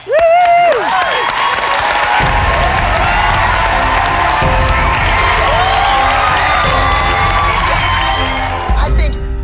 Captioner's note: cheering